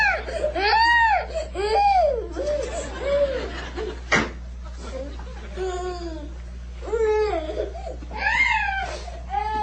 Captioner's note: crying; laughing